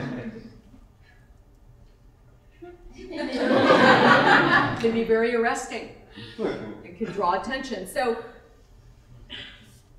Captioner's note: laughter